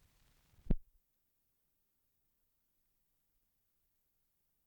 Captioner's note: no audio